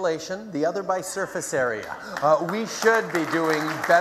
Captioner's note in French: Applaudissements